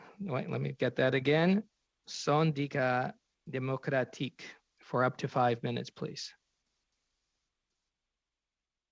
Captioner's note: speaking French